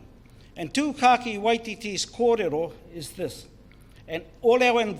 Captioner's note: foreign Language